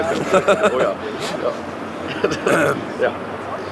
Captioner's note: both laugh awkwardly